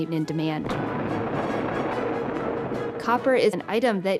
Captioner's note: explosion booms